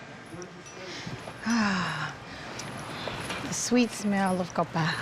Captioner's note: sighs